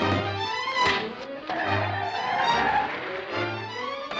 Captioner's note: tires screeching